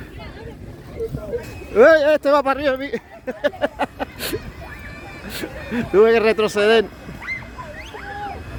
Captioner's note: laughs